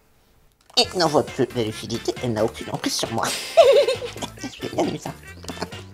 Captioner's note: laughs